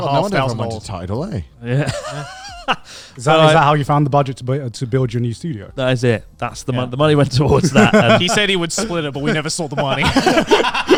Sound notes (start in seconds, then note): 1.7 laughs; 7.4 laughs